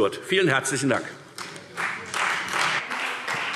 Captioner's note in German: Beifall Freie Demokraten